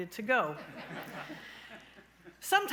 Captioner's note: laughing